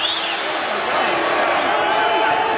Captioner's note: crowd boos